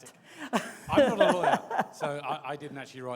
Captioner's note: laughs